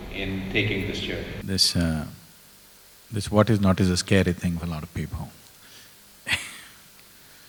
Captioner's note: laughs